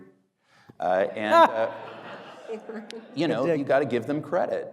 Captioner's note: audience laughing